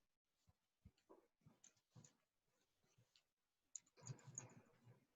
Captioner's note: computer clattering